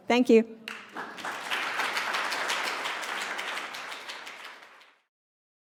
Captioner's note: applause